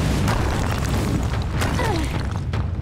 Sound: grunting

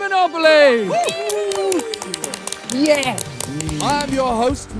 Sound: group cheering

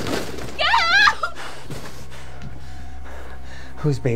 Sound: person panting

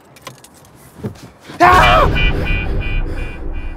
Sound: gasps

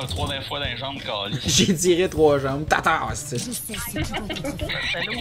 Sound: laughs

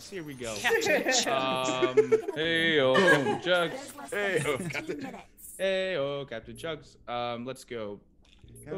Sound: laugh

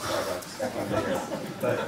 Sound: laughter

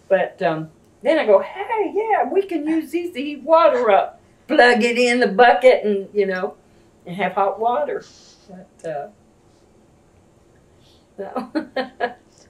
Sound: laughs

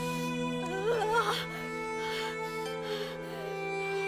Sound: moaning

